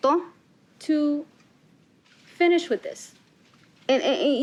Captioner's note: spanish continues